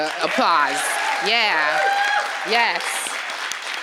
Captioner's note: applause